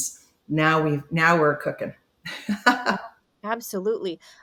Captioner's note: chuckles